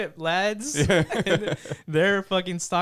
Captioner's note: laughing